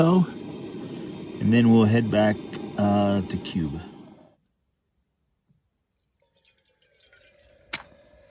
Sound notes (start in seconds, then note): 3.6 match striking; 5.0 flame hissing